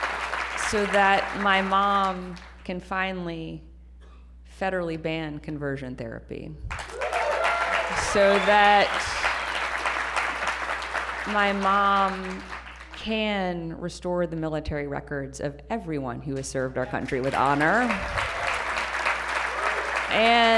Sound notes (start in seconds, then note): 6.7 applause and cheering; 16.4 applause